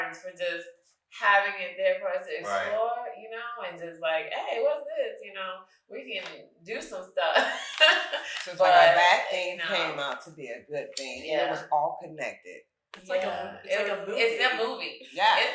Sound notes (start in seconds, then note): 7.3 laughing